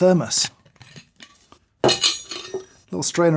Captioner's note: strainer rasps and clanks